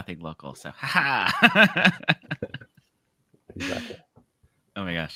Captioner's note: laughs